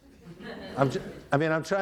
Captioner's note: audience laughing